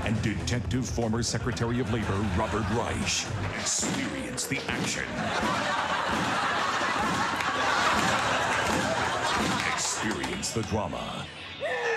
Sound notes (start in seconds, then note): 5.4 crowd laughing